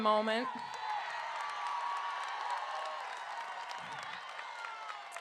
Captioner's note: crowd cheering